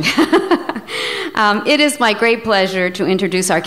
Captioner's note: laughs